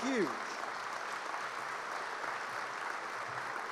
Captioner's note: applause